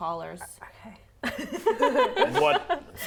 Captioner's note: laughing